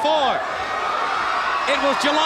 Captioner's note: crowd cheering